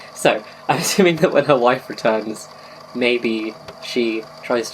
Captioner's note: laughs